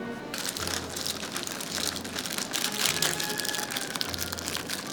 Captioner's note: parchment crinkles